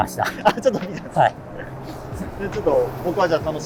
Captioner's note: laughing